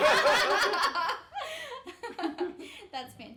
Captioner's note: all laughing